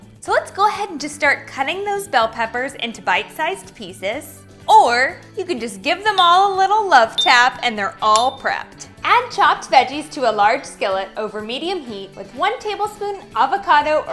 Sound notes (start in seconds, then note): 7.2 ding